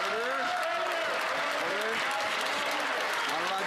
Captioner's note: some Applause